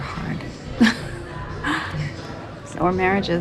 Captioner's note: Wendy chuckles